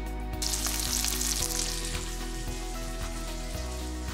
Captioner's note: meat sizzling